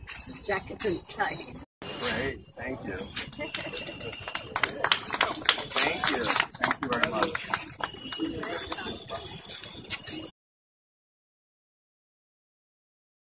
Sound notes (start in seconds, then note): 9.0 applause